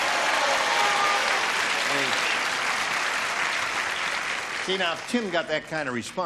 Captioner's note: applause